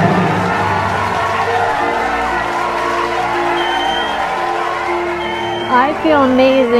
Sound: applause; cheering

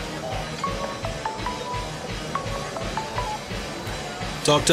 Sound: cell phone ringing

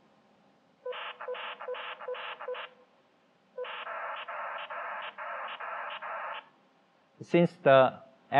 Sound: beeping modem signal sounds

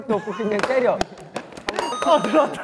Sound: clap

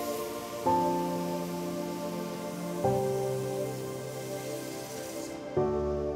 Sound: gentle music; fire roaring

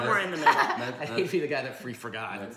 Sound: laughing

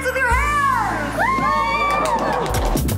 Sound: cheering

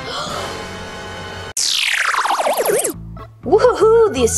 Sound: dramatic music; gasps

